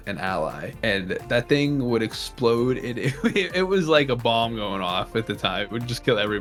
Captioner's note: chuckles